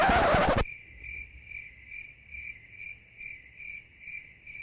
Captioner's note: crickets chirping